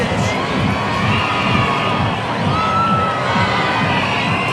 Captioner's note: crowd cheering